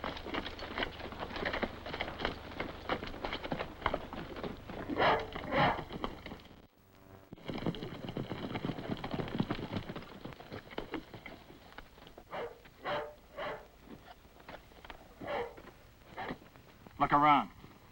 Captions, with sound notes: (dog barks) (hooves clop) (dog barks) Look around.